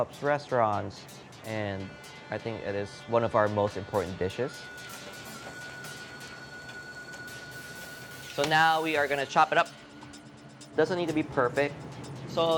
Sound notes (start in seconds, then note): 5.3 meat searing